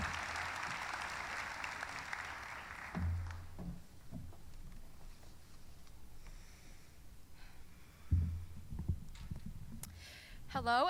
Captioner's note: cheering; applause